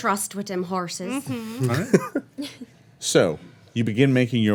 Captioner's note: laughing